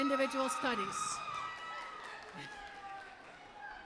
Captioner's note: applause